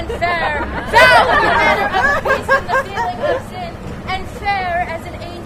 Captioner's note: laughter